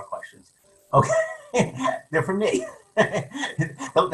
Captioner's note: laughs